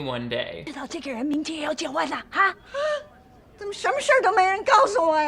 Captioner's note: speaking Chinese